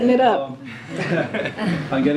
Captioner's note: laughter